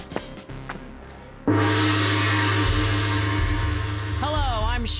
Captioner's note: gong ringing